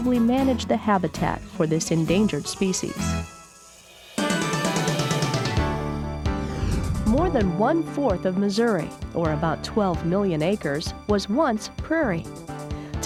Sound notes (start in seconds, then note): none